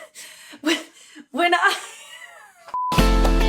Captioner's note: laughs; beep